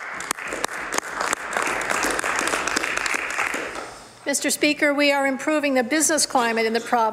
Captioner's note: some Applause